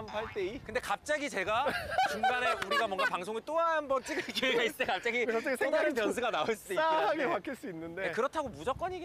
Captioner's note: laughing crazy